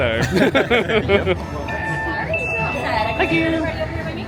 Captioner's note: everyone laughing